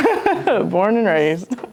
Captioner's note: laughs